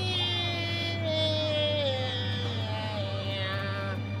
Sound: man mimics the music

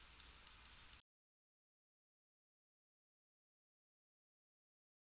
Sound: audio cuts out

